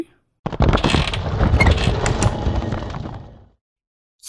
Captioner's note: stone sliding away